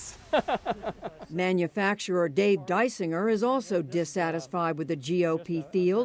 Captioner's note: laughter